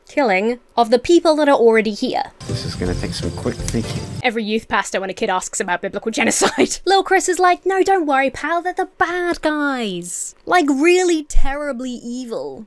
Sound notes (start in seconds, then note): 6.3 Emma laughs